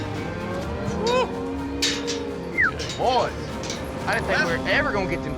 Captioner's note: whistles